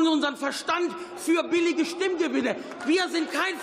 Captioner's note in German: Beifall